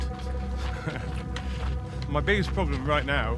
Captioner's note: laughs